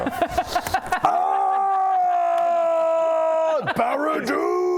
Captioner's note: heartfelt, friendship-ending scream